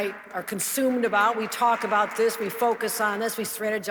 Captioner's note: audience clapping